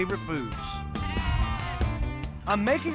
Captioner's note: sheep bleating